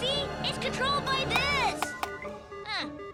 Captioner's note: buttons beep and bop